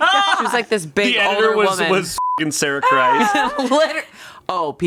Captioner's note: everyone laughs; beep